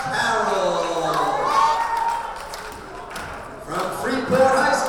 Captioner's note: crowd members cheering